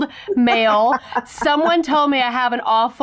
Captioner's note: laughing